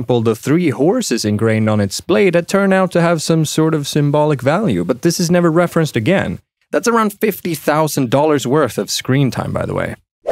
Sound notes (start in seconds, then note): none